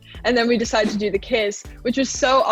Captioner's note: scene whooshing